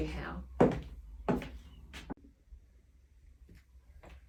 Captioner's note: footsteps thud